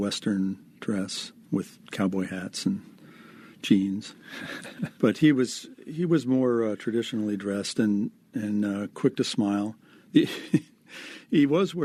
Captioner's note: laughs; laughing